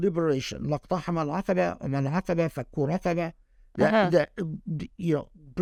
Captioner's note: speaking Arabic